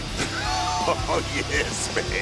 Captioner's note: both laugh